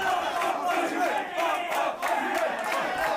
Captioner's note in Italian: Applauso